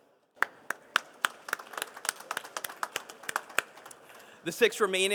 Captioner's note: participants applauding